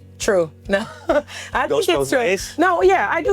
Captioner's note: chuckling